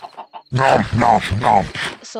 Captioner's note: nom nom nom